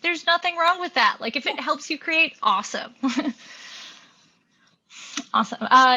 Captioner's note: chuckles